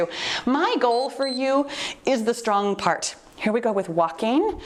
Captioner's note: timer beeps